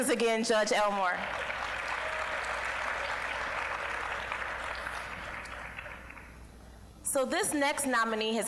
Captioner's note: applause